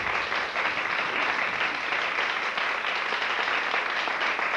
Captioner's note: applause